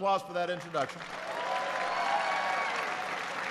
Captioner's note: applause